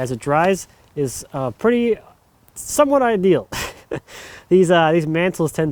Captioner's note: laughs